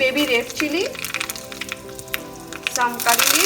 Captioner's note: food sizzles